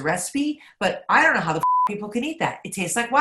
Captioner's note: beep